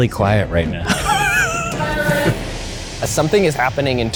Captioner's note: laughs